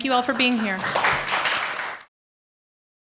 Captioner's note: applause